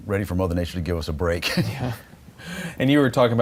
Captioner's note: laughter